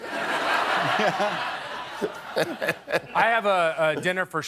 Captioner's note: laughter